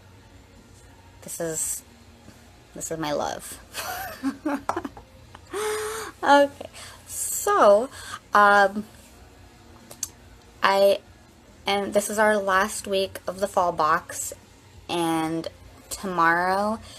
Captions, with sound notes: This is my love. (laughs) So... This is our last week of the Fall Box and tomorrow